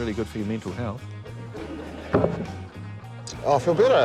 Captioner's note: laughter